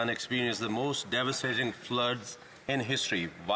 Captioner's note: speaking French